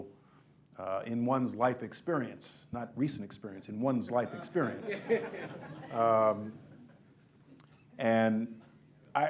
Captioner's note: laughter